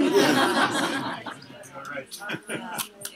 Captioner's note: laugh